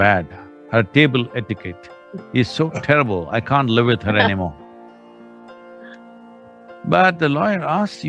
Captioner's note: Tony laughs